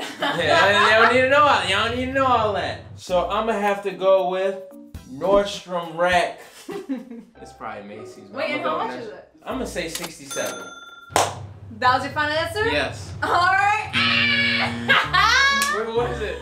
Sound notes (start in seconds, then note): 10.3 ka-ching; 11.1 clap; 13.8 buzzer buzzing; 14.0 laughing